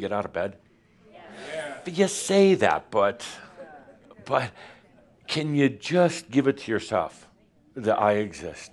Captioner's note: audience says “Yes”